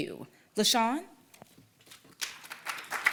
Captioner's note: applause